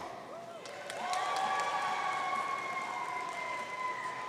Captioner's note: audience cheering